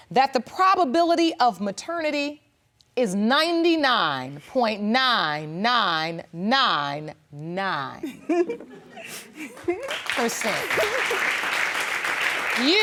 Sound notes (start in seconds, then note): 8.0 laughs; 9.8 audience applauding